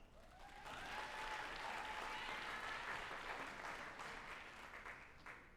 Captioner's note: group applauding and cheering